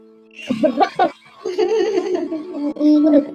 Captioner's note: laughs